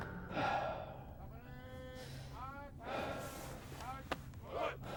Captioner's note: man sighing and panting; army chanting